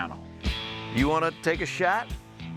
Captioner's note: none